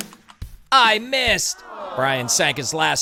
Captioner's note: disappointed crowd sighing